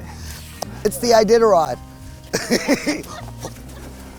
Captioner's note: laughs